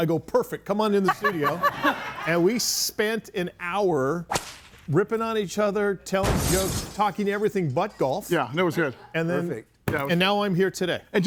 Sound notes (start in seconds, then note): 1.0 group laughs; 4.3 whip cracks; 5.7 object blasts